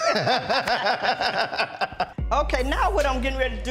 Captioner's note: laughter